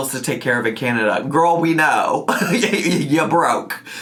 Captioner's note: laughing